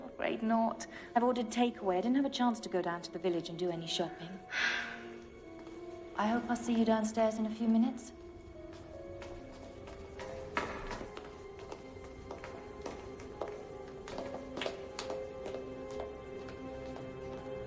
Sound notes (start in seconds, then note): 4.5 Phoebe sighs; 9.0 footsteps fading; 13.4 tense music continues